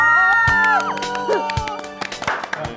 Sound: screaming

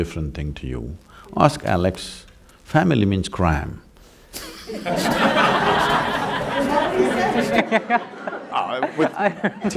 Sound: laughter

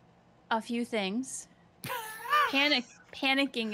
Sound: laughs

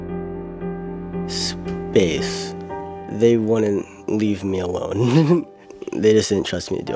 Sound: chuckles

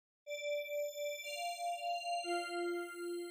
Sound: soft chime

